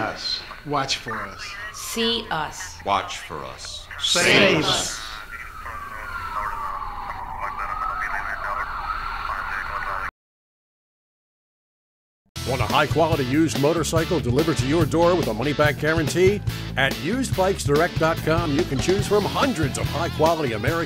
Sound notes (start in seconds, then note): 6.0 police radio chatters